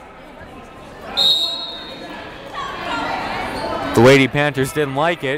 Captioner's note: whistle blowing